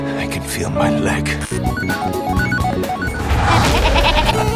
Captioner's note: retro arcade SFX; demented laughter